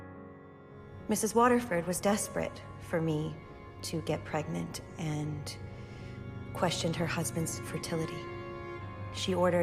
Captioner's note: voiceover; voiceover